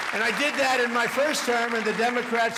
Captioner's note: applause